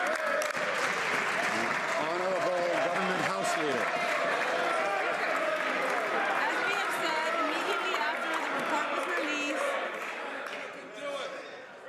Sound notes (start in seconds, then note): 2.8 some Applause